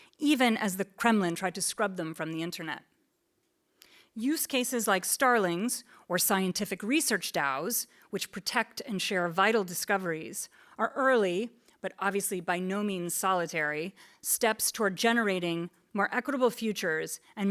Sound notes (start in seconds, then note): none